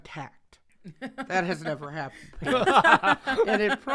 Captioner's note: both laugh